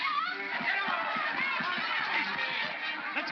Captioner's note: mob clamors